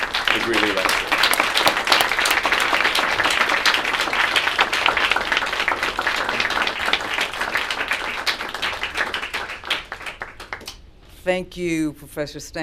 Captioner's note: applause